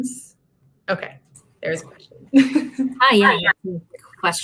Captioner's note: laughter